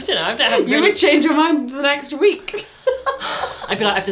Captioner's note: laughs